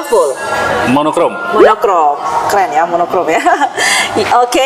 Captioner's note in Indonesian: hehehe